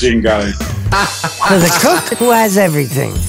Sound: laughs

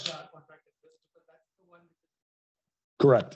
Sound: student mumbling

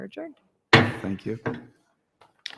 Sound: thump

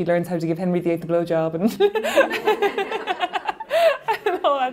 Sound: laughing

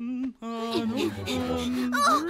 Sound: humming; all panting

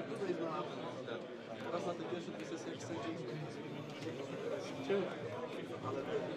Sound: indistinct conversation

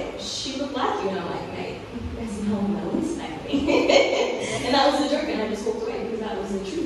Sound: laughs

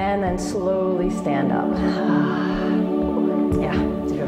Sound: exhale

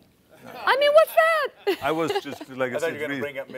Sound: laughing

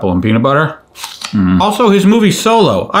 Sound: apple crunching

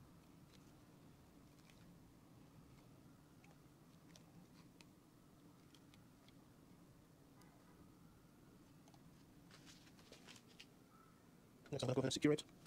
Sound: silence

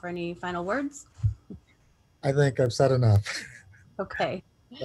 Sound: laughter

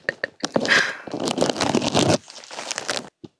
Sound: sound of taking out needles stuck in the wind screen

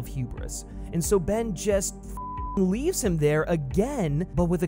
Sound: beep

